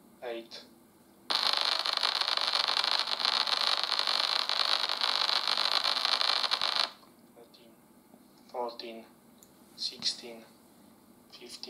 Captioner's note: buzzing noise